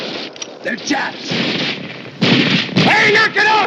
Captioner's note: gunfire stops